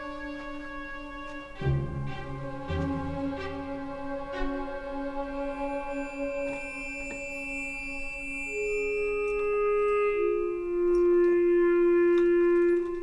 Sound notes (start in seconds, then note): 0.0 mischievous music; 9.3 keys jingling